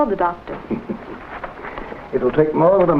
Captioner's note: Dr Forbes chuckles